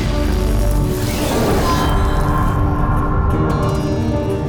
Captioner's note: intense electrical surge; dramatic music intensifies